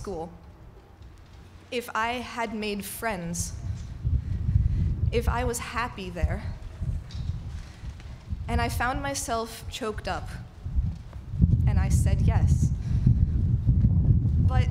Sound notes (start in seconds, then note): none